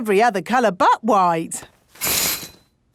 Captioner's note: none